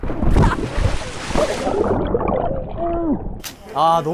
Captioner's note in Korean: 물소리 asmr